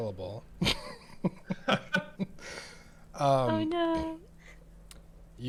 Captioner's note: laughter